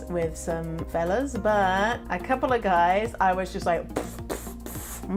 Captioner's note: blowing out air